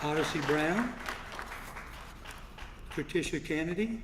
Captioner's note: applause